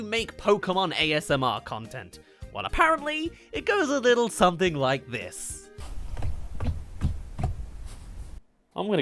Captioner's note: steps